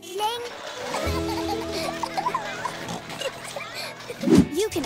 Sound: laughing

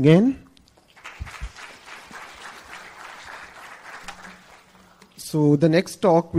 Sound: applause

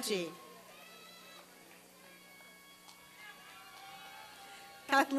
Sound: applause and cheering

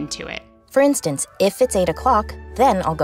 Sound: voiceover

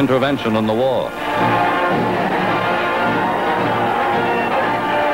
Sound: crowd cheering

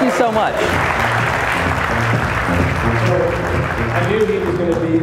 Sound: audience applauding

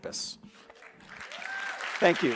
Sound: cheering and clapping

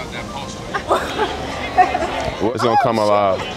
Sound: laughing

